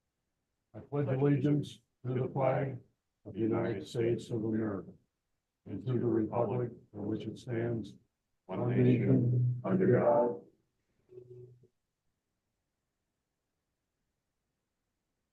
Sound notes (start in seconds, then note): 12.4 audio cut